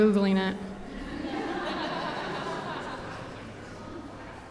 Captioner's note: audience laughing